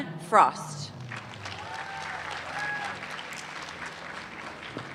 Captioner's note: applause